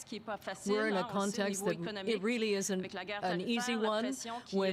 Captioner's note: speaking French